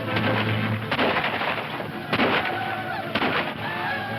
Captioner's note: whooping; guns firing